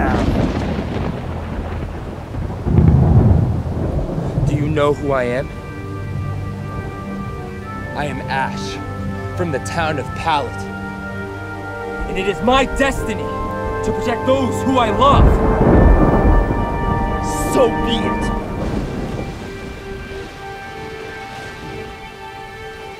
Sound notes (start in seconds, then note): 0.0 thunder booming loudly; 15.9 thunder booming loudly; 19.4 intense dramatic music